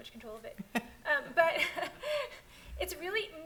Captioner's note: panelist laughs